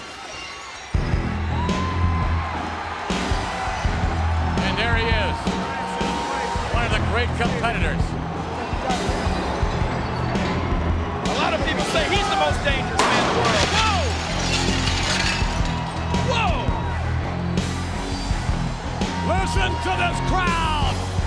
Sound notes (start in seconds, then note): 0.1 glass shatters; 0.9 brooding rock music; 14.8 glass shatters